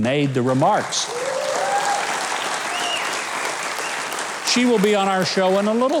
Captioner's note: audience applauding